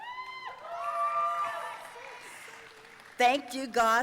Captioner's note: audience cheering